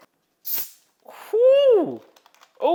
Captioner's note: bottle hisses